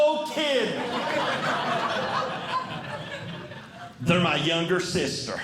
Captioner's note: audience Laughing